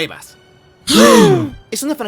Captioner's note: gasps